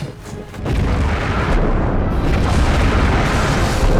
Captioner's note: explosions